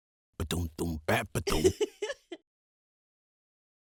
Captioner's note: happy giggle